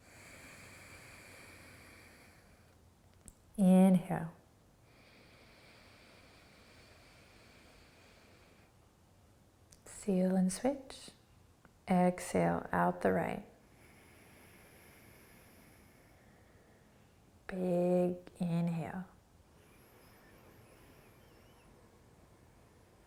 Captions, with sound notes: (exhaling) Inhale. (inhaling) Seal and switch. Exhale out the right. (exhaling) Big inhale. (inhaling)